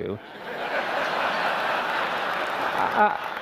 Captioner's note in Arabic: ضحك